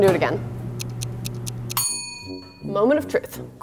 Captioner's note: ticking